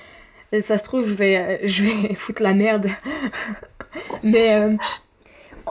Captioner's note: laughs